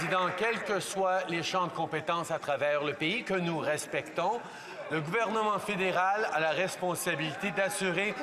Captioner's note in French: applaudissements